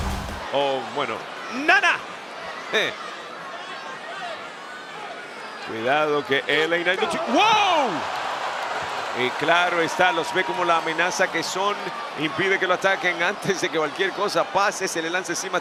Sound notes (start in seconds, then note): 2.5 applause